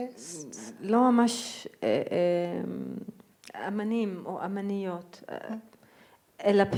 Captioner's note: speaking in foreign language